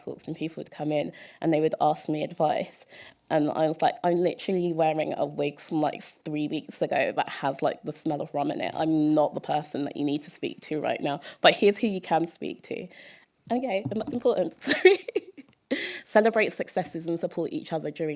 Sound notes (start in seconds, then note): 14.6 laughter